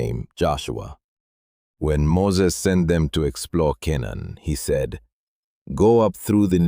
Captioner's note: thoughtful